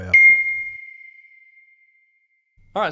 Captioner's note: bell ringing